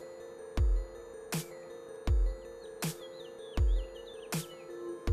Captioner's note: chirping